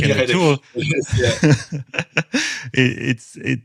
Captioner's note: laughter